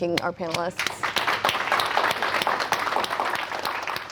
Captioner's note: hands clapping